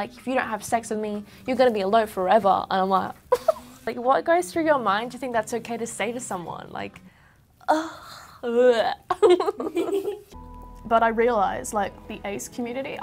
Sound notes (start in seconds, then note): 9.1 laughs